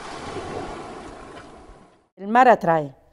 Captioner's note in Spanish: Sonido mar